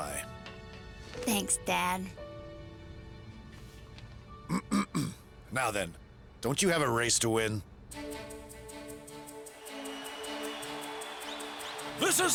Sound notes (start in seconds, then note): 6.2 clears throat; 9.5 cheering